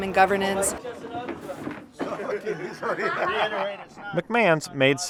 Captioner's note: people chatting